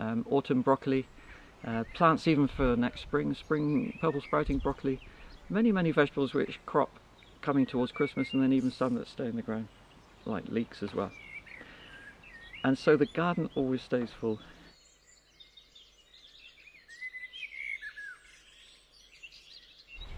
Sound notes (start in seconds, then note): 11.6 birds chirping; 15.0 birds chirping